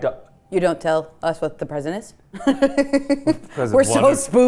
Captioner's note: laughs